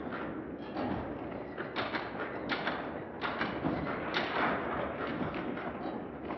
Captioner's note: none